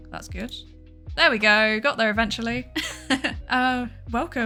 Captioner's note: laughs